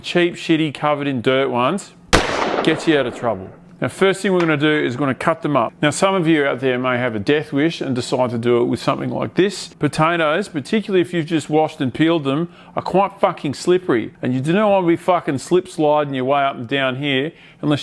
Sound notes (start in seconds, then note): 2.0 clap